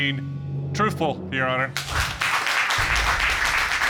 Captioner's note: audience applauds